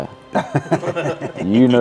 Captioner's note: laughing